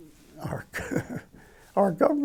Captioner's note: chuckles